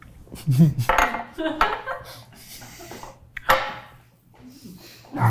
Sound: crew laughing

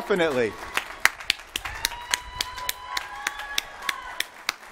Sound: applause

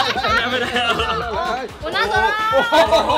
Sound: laughs

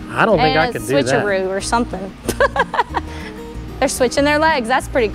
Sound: laughs

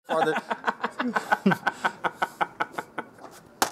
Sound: laughing

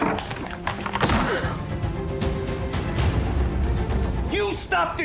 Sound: dramatic music; hand pounds

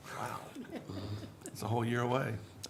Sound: laughs

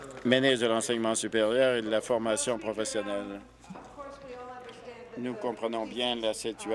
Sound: some Applause

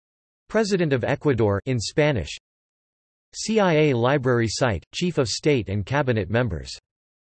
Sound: in Spanish

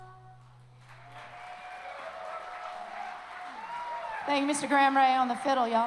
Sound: song ends; applause

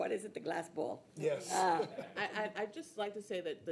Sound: people laughing

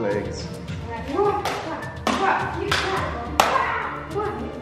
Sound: swords hitting together

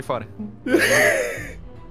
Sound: laughs

